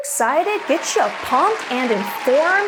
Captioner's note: crowd cheers